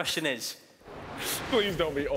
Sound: whooshing

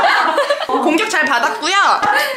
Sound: laughing

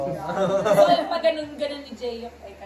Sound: haha

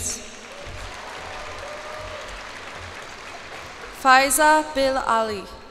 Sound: cheers and applause

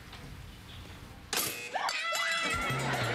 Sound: buzzes

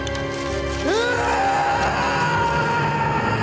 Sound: tense music continues; Liam roars

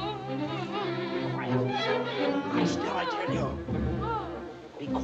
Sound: moaning continues

